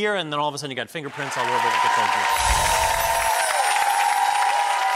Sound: cheering

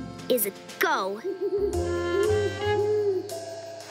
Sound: owl hoots

